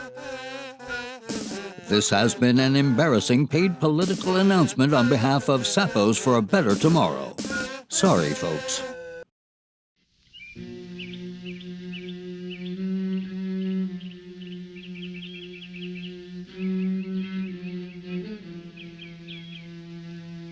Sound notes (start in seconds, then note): 8.7 birds chirping; 12.8 somber music